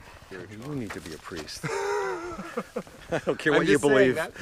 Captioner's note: Pete laughs